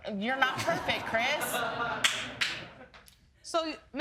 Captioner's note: audience lauging